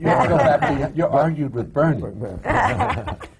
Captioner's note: laughter